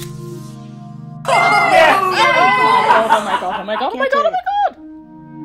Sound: Magical Queers cheering and laughing

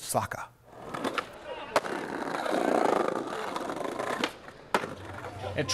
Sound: skateboard rolling

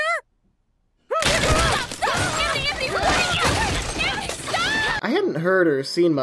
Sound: both shouting; crashing

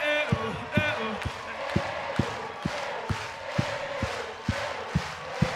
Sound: crowd

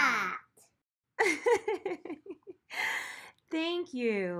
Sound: laughs

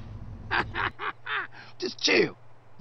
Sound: hahahaha!

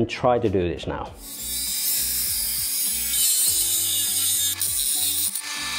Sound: sawing

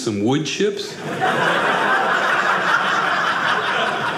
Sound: audience laughing

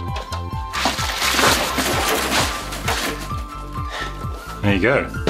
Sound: bubble wrap crinkling

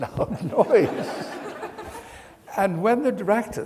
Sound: audience laughs

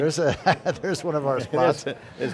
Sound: laughs

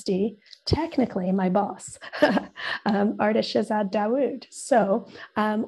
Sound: laughing

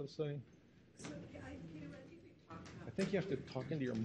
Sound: woman speaking softly

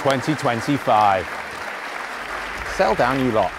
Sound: audience applauding

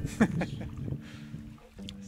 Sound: chuckles; relaxing music

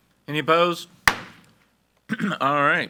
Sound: gavel bangs

